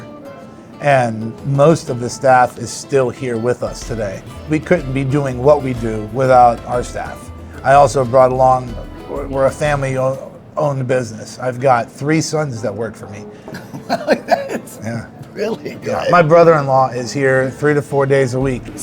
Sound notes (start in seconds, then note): 13.5 laughs